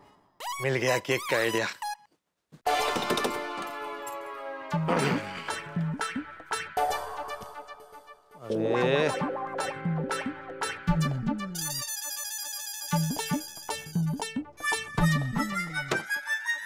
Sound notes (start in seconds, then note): 2.6 mellow music; 4.8 clears throat; 14.5 comical music